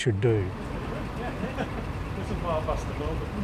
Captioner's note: both chatter indistinctly and laugh